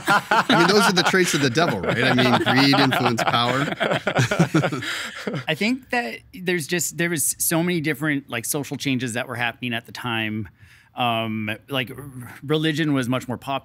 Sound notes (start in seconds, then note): 3.4 all laughing